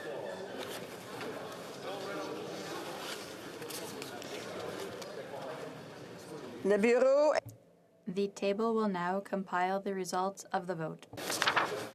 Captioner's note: speaking French